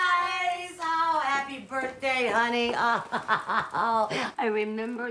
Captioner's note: laughing